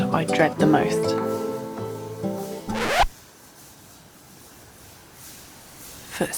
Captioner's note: human footsteps in the leaves